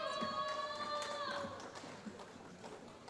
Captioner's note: applause